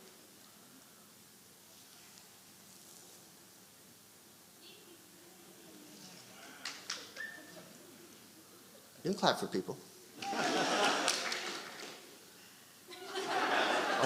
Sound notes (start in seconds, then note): 7.3 audience applauding; 12.9 audience laughing